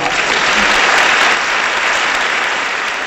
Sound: applause

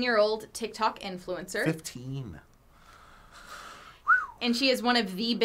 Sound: whistles

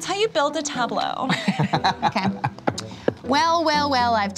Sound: laughter

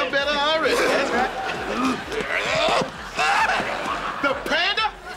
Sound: grunting

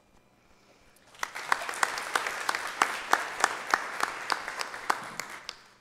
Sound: audience applauding

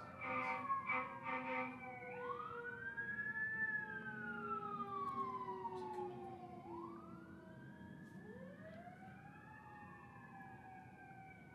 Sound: sirens in distance

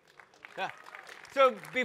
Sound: audience applaud

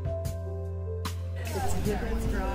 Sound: chatter

